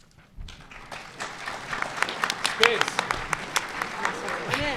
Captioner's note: audience applauds